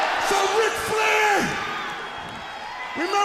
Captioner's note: crowd cheering